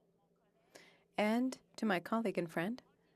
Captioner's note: speaking FRENCH